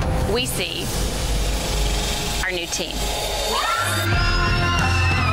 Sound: cheerleaders scream

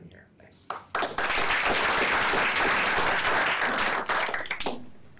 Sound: applause

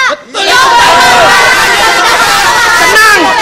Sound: people shouting

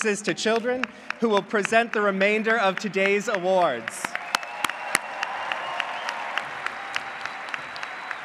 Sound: applause

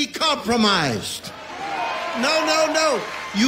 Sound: audience cheers and applauds

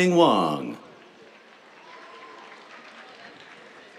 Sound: applause

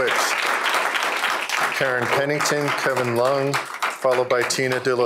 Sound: applause

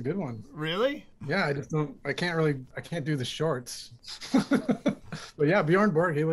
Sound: laughter

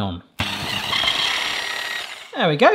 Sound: whisk whirring

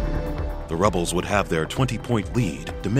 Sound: voiceover

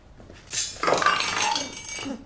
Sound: clinking

